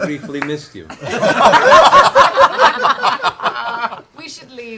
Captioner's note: laughter